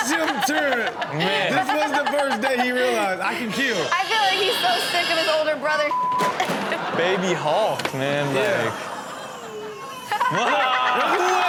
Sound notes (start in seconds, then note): 0.0 Chanel continues laughing; 8.3 baby crying; 9.0 boy crying; 10.1 Chanel laughing; 10.1 all exclaiming